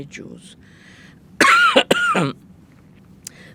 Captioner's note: coughing